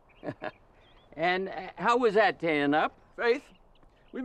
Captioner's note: laughs